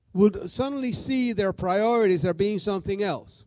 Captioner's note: none